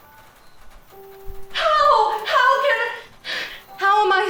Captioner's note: Carrie exhales